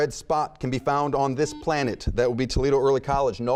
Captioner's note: buzzer beeping